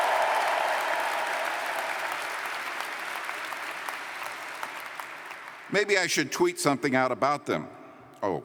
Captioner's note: cheers & Applause